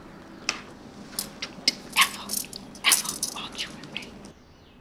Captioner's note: Miss Bose whispering